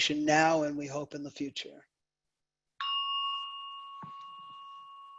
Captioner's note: bell rings